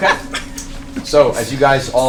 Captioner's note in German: leise